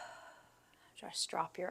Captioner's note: exhaling